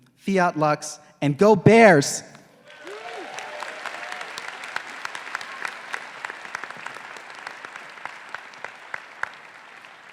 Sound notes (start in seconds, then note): 2.6 faculty, graduates, and audience applauding